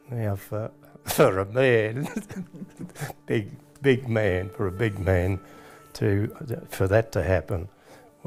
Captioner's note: laughs